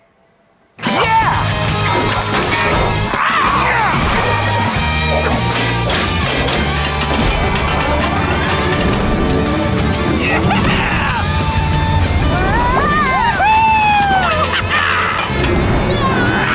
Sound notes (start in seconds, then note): 1.7 metal clanking; 6.4 gears moving